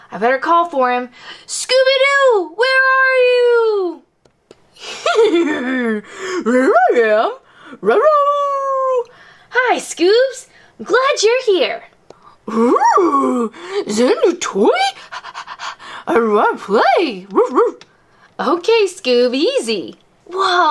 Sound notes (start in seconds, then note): 4.8 laughs; 14.9 pants; 17.6 barking